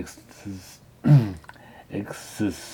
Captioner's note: clears throat